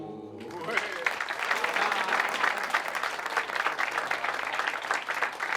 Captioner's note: people clapping